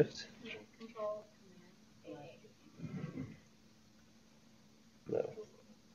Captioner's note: pause